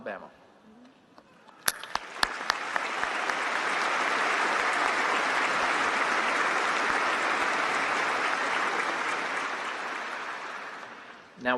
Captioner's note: applause